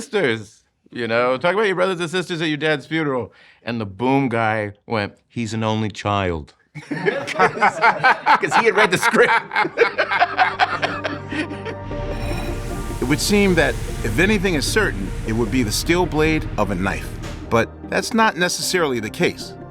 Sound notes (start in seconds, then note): 9.1 all laughing